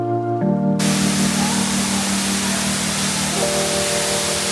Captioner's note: water falling